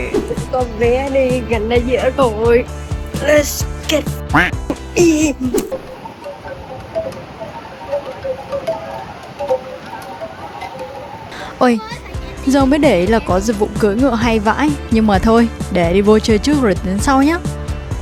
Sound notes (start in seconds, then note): 5.5 ASMR wind chimes sounds